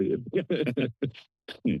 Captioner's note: laughter